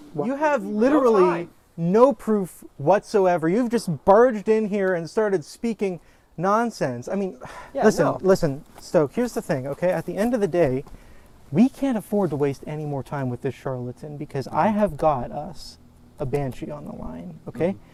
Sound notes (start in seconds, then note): 7.3 scoffs